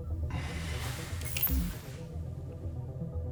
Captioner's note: error chime